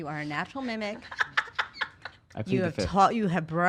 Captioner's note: laughs loudly